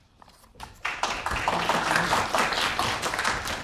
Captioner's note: applause